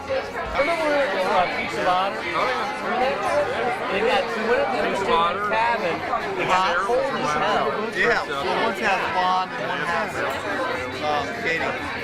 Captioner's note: indistinct chatter